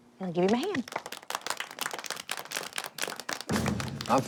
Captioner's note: applause